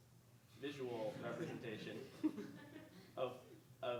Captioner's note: audience laughing